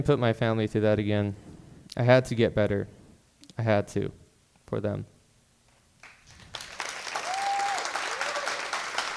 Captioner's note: applause